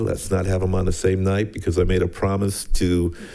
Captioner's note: none